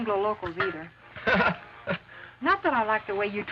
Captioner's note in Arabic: رامون يضحك